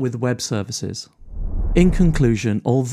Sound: graphics whooshes

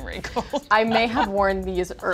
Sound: laughing

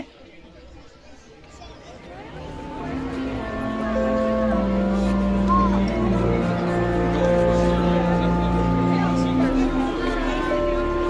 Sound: background Chatter

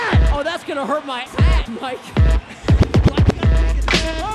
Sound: tone

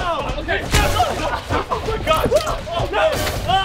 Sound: screaming; splash

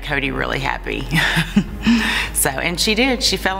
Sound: laughing

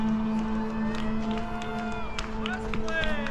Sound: people cheering

